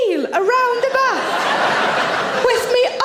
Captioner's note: audience laughs